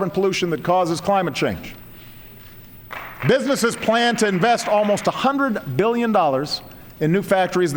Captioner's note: applause